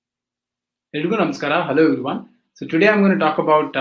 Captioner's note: speaking hindi